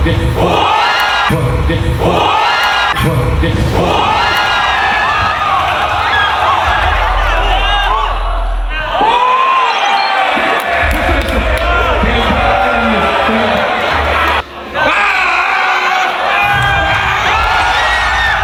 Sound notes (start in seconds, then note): 3.0 lightning